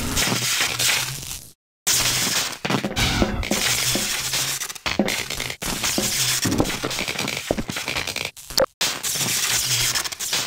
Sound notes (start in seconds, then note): 2.7 metal Footsteps; 4.9 metal Footstep